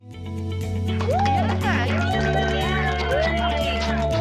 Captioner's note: cheers and applause